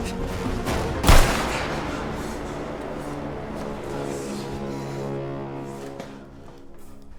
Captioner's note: gunshot booms; Carlton whimpers